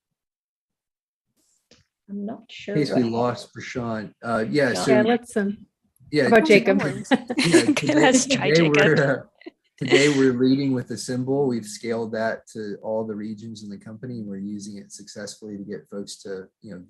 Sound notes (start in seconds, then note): 9.8 laughs